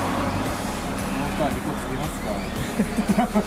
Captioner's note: laughs